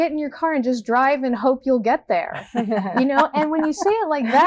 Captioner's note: Sheila Kuehl laughing